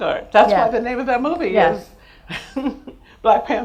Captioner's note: laughs